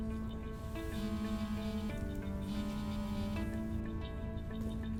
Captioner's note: phone buzzes